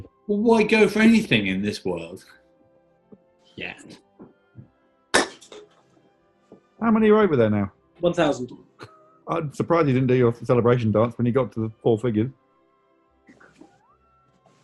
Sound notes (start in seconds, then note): 5.0 can clatters; 9.2 sniggering